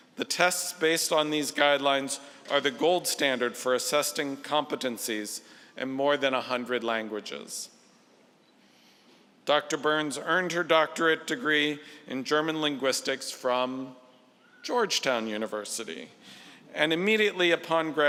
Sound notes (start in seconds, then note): none